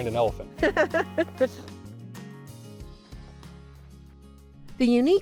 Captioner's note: laughing